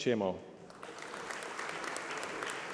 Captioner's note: applause